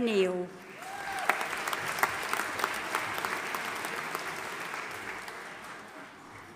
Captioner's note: audience applauding and cheering